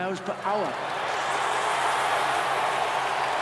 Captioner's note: cheering